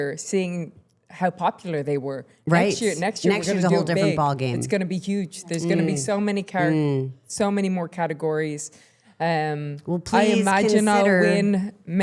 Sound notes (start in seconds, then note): none